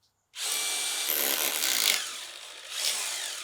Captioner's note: drilling